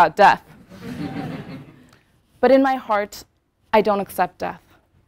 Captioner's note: laugh